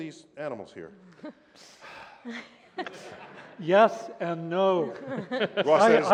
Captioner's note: sighs